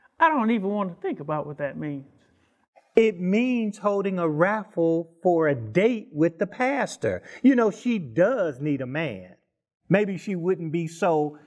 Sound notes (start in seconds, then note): none